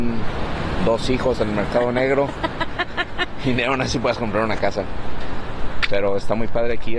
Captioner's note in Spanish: risas